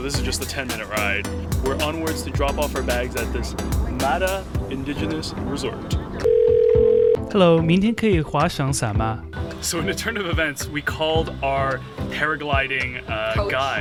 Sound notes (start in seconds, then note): 6.2 phone ringing; 7.5 speaking in Mandarin